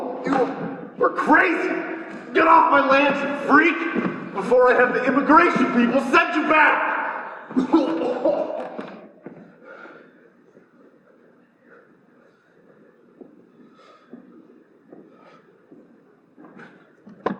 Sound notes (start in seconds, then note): 0.0 Donnelly choking; 6.8 coughs; 8.8 heavy breathing